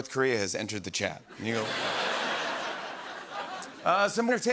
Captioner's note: laughter